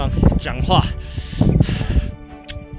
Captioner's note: exhales